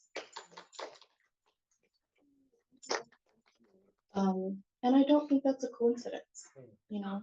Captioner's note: clapping